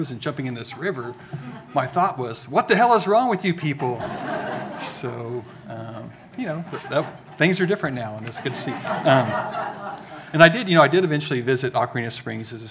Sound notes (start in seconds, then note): 4.3 audience laughing